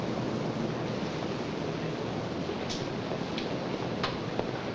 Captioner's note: machinery rumbling